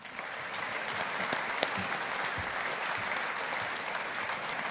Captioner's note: audience applauding